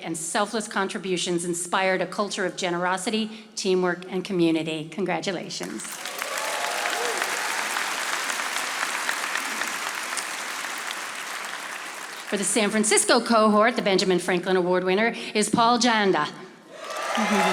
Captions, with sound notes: and selfless contributions inspired a culture of generosity, teamwork and community. Congratulations. (audience applauding) For the San Francisco cohort, the Benjamin Franklin Award winner is Paul Janda.